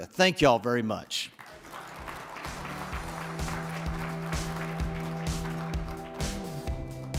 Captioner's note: audience applauding; upbeat music